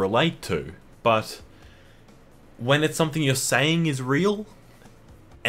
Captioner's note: inhale